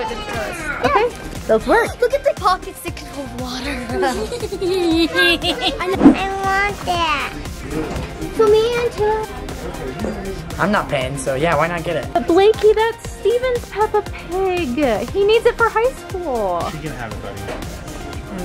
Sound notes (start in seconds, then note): 4.0 laughing